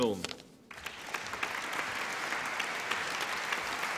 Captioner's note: applause